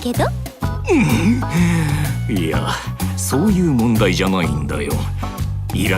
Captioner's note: groan